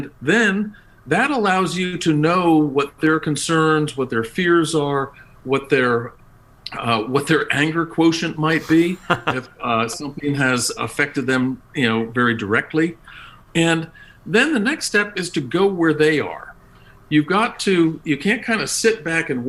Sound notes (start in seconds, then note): 8.5 laugh